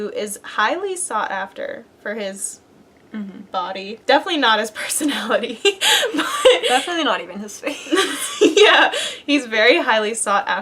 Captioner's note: laugh